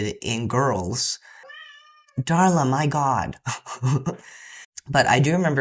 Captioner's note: loud meow; laughter